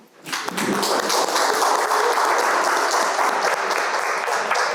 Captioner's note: audience applauding